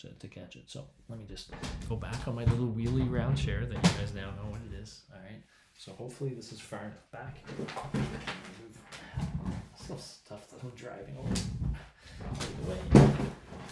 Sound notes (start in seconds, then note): 7.5 rummaging